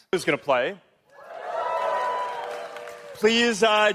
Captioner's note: applause